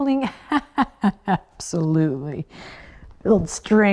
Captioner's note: laughs